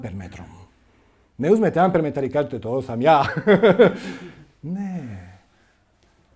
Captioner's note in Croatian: smijeh